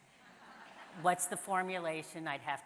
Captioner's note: audience laughs